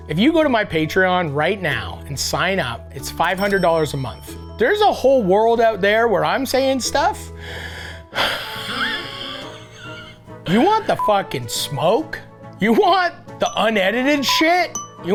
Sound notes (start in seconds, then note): 7.4 Matty wheezes